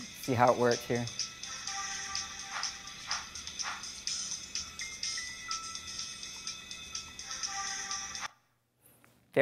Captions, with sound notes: See how it works here. (swooshing sound) (electronic video game music)